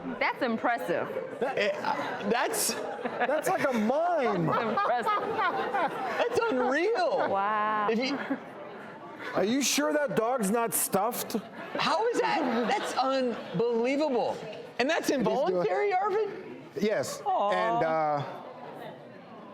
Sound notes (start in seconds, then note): 2.7 laughing